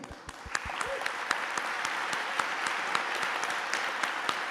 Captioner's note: applause